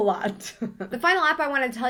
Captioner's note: laughs